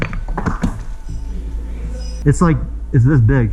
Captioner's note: rocks clatter